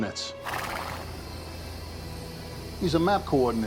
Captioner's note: horse neighing